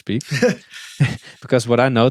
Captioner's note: both chuckle